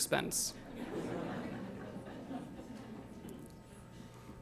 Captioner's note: laughter